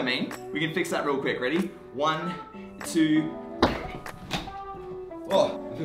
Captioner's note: bang